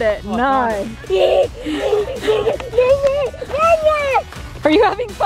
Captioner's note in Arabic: صراخ متحمس